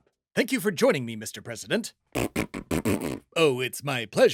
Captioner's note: Legally Fake flatulence Noises and not Trump's real voice. Got it?